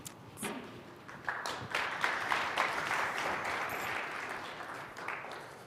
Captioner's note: applause